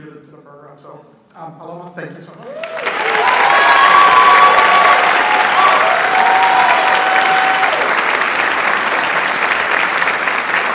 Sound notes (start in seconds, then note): 2.4 audience applauds